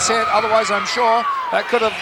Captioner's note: Sherri screaming